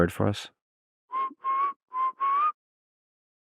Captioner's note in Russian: звуки волнистого скрытохвоста